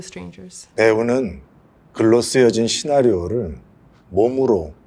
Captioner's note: speaks Korean